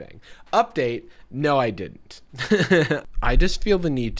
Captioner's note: laughs